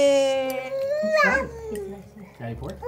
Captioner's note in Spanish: En idioma bebé